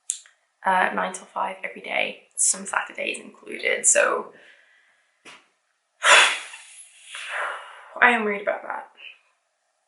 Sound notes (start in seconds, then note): 6.0 sighs